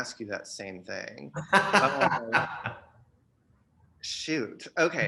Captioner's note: laughter